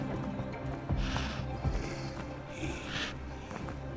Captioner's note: hissing